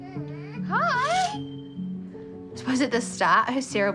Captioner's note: chatters; curtain rod rings